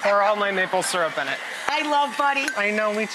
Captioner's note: laughing